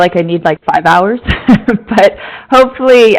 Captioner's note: chuckling